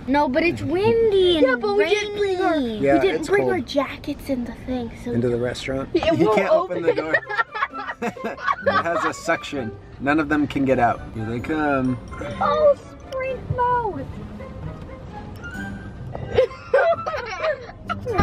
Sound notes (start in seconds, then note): 7.7 all laughing; 14.3 playful music